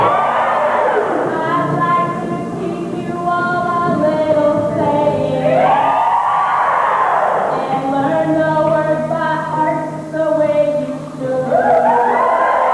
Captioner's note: cheering; cheering